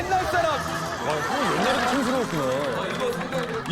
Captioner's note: haha